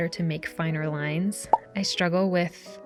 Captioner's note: pop sound